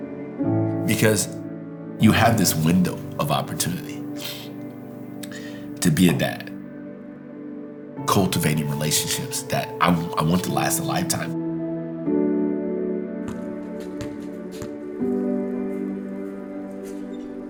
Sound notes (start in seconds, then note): 13.2 ball thunking